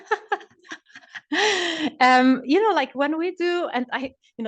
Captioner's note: laughs